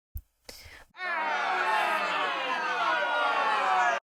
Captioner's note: audience booing sound effect